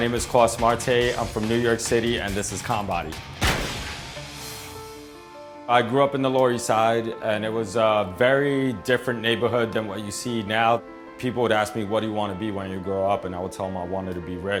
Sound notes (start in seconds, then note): 3.3 door slamming